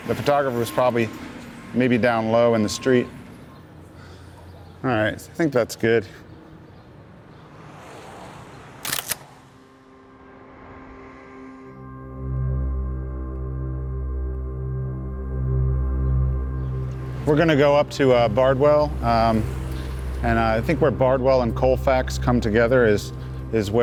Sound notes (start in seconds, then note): 8.8 camera snapping